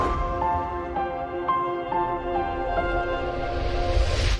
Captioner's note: slow piano playing; air whooshing